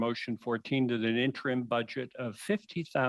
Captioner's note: speaking French